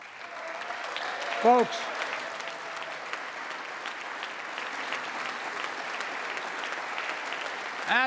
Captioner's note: applause